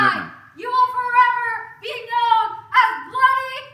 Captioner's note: protest utterances